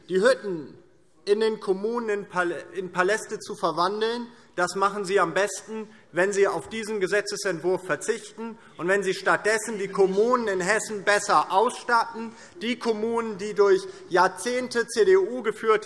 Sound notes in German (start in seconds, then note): none